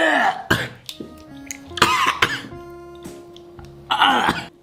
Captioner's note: coughs